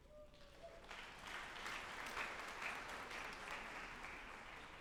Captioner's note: group applauding